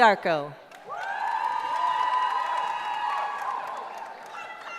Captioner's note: cheering